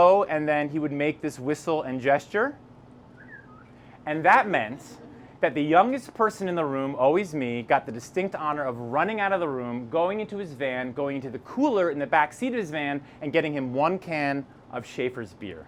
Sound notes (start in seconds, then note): 3.1 whistle and gesture